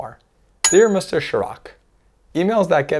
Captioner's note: bell chimes